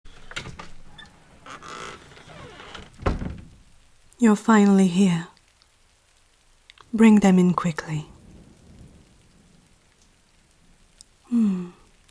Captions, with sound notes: (door creek) You’re finally here bring them in quickly. Hmmm